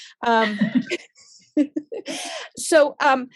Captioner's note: both laughs